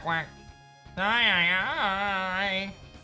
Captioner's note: Psyduck cry